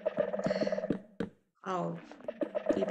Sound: sighs

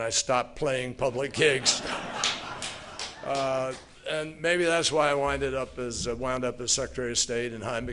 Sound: laughter

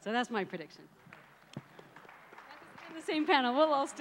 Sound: applauds

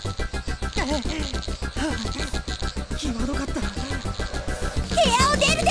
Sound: huff

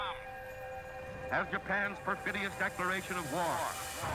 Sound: echoes

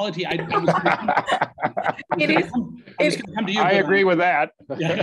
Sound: panelists laugh

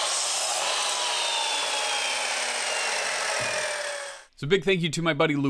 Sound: miter saw being used

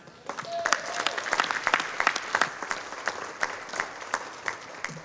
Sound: audience applauding

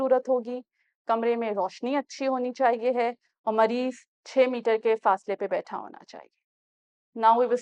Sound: in Urdu

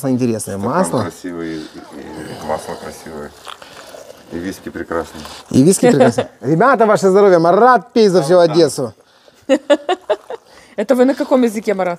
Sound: laugh

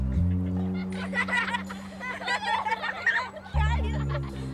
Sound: laughter

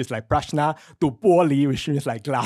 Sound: foreign speech

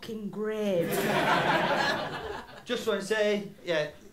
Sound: laughter

